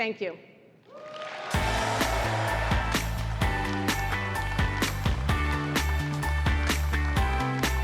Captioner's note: applause